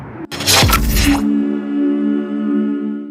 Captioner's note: logo whooshes